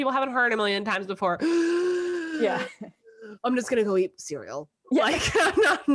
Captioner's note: gasp